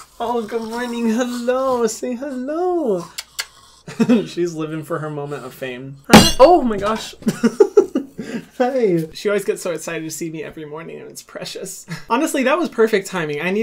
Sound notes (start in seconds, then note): 6.0 table clunks and thuds; 7.2 chuckles